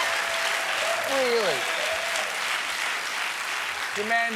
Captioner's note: cheers and applause